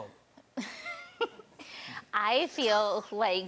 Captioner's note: laughs